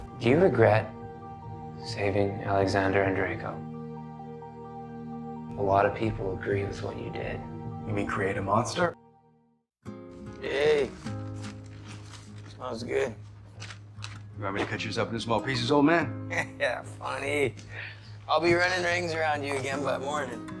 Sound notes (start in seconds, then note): 16.2 laughing